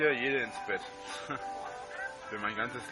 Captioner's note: laughs